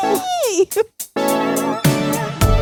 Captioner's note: instrumental music; chuckling; upbeat instrumental music